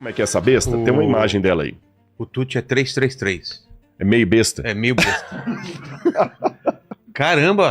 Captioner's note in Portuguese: risadas